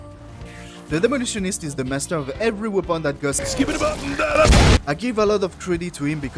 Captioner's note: boooom